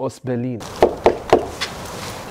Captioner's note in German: Klopfen